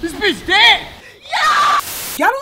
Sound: bubbles & buttercup cheering

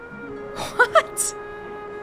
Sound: chuckles

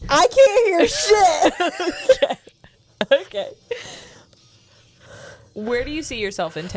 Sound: laughs

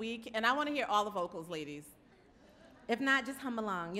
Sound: light laughter

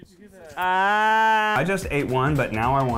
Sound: screams in pain

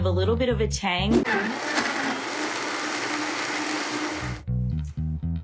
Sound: blender running; jazzy music

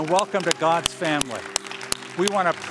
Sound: applause

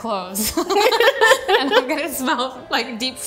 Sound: laughing

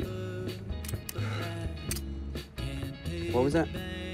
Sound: Reacher sighs

